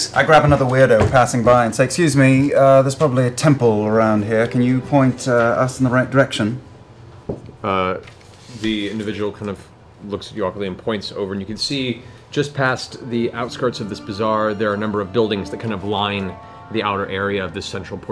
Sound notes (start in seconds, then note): none